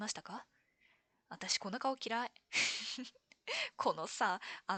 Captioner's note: laughs